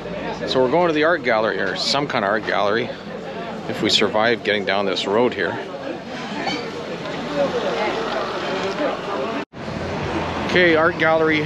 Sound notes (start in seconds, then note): 8.9 traffic noise